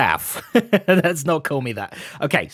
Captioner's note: laughs